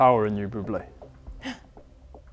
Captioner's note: gasp